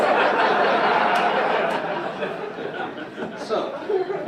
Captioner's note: audience laugh